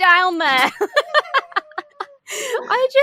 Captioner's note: laugh